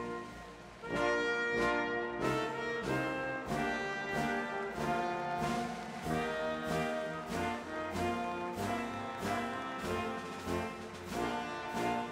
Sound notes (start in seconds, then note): 6.1 applause